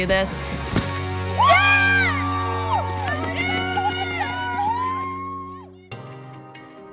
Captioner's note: crowd cheering